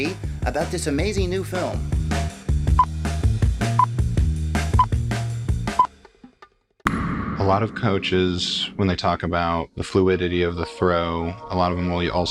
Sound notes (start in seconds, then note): 3.4 old movie countdown